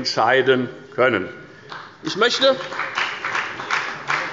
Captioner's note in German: Beifall bei der FDP